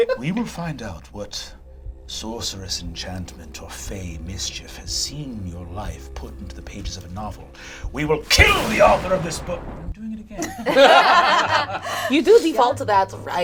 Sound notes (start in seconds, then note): 10.5 all laugh